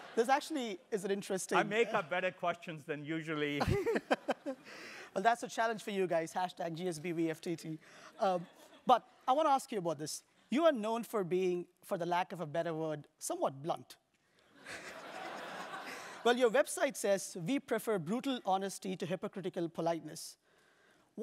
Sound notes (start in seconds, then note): 3.6 laugh; 14.0 laugh